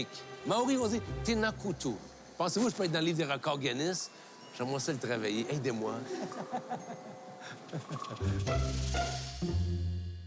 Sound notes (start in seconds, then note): 6.1 Rires